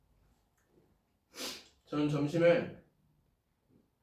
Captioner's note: sniff